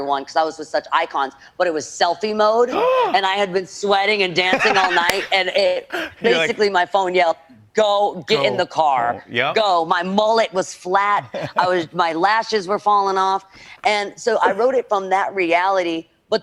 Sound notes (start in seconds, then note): 2.7 gasps; 4.3 laughs